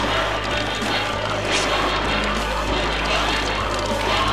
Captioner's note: growling; tearing